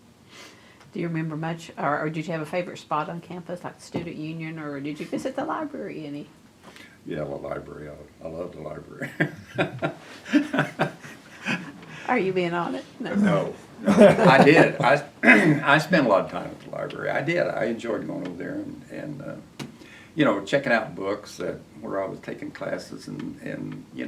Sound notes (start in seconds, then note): 11.0 laughter; 12.6 laughs